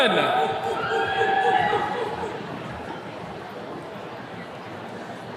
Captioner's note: attendees cheering